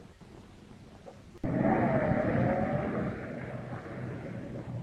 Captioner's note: engine rumbling